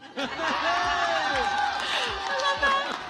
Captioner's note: audience cheering; audience chattering